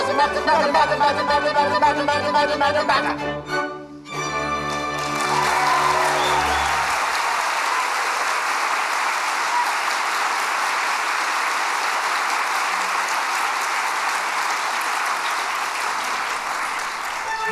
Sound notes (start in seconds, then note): 4.5 applause, cheering